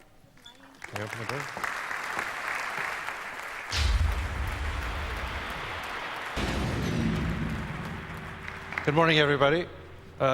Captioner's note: applause